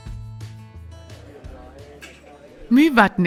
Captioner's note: diners chattering